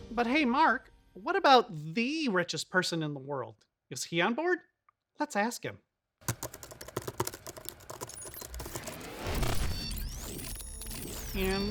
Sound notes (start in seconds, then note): 6.2 keyboard clattering; 8.0 electronic sound effect